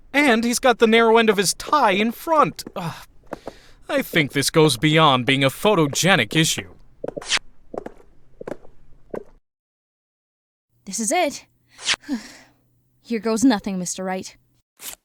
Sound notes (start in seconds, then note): 3.2 groan; 7.1 footsteps; 9.5 footsteps stop